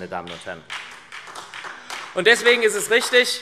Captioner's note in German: Beifall SPD